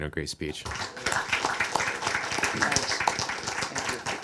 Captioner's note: applause